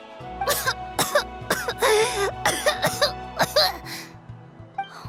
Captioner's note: coughing